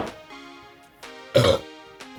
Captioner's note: burps